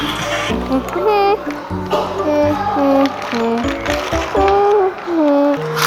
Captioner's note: humming~